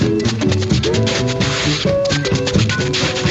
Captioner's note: tapping